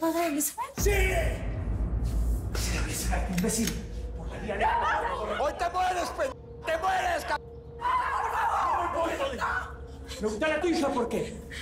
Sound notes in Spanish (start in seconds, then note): 4.8 Grita entre dientes